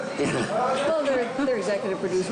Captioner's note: laughing